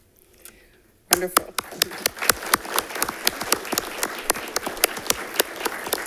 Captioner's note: audience applauding